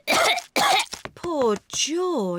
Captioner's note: coughs